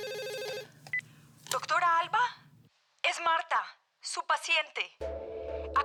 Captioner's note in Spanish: Suena el teléfono